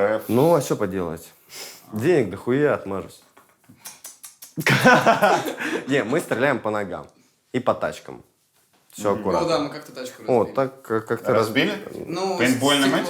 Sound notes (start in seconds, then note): 3.7 clicks tongue repeatedly; 4.6 laughs